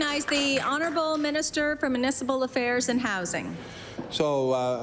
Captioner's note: applause